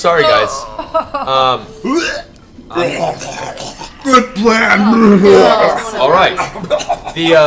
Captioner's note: vomiting noise